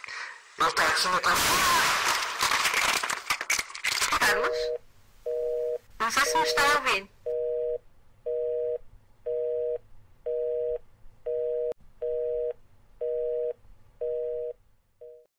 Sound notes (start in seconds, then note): 1.4 loud bang and scream. Soud of something falling to the ground